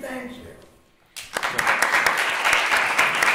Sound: applause

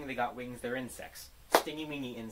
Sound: clap

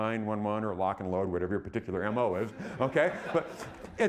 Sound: audience laughing

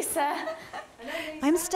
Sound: they laugh

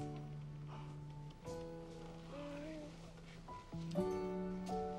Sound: baby coos

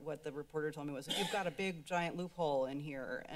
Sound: coughs

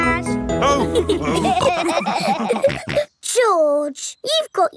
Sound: all laughing

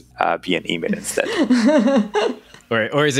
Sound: laughs

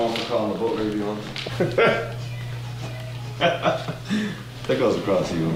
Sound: laughing

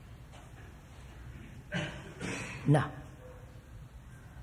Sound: laughs

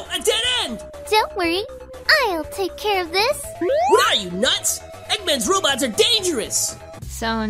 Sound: bwoop

